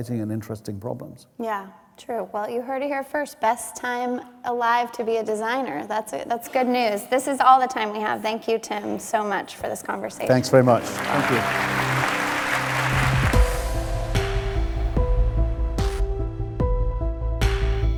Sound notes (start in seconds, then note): 11.9 applause; 13.9 intense instrumental music